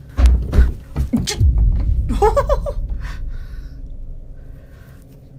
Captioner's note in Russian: шаги